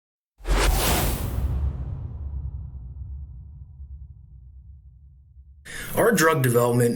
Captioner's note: whooshing sound